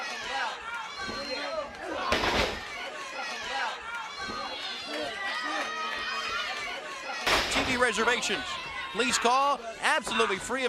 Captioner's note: crowd chatter